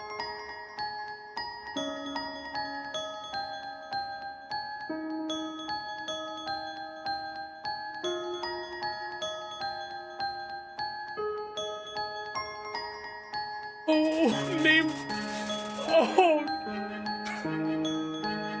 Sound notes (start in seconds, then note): 16.3 sobs